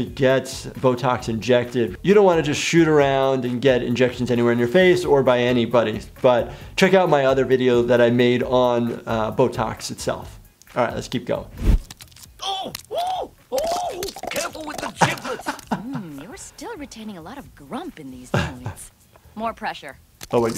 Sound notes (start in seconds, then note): 11.6 skin slapping; 11.7 Farnsworth shouting; 14.1 suckers popping; 20.2 suckers popping intensifies